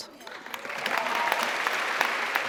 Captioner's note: applause